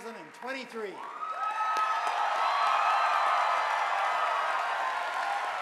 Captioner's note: audience applauding